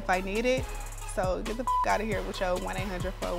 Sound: beep

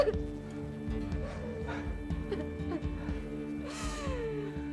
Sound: taking deep breaths

